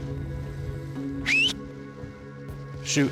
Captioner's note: whistles